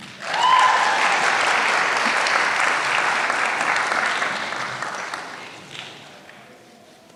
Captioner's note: applause